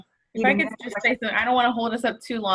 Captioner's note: group chattering